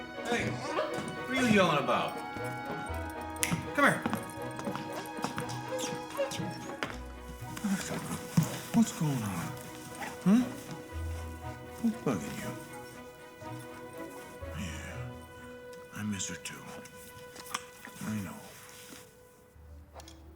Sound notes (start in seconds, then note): 0.4 barks; 3.3 snaps fingers